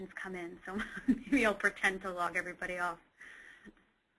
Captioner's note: giggles